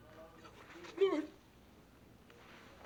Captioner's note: sobbing